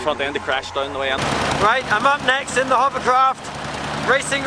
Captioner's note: engine noise